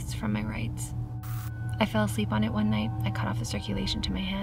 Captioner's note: static crackles